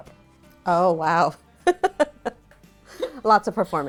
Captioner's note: chuckles